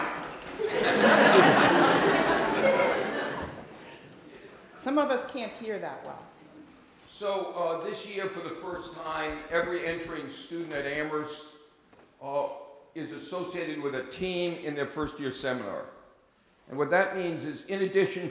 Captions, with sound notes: And use one mike. [LAUGHING] Some of us can't hear that well. So this year for the first time, every entering student at Amherst is associated with a team in their first year seminar. And what that means is in addition